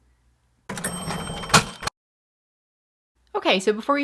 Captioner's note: cash register dings